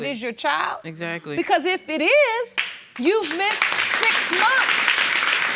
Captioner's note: clapping